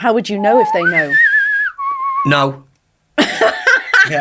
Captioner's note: whistling; laughing